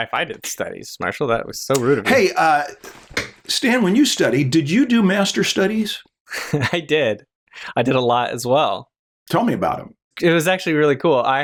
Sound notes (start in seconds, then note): 6.3 chuckles